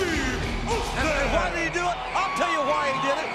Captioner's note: audience cheers